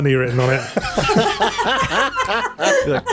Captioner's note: laughter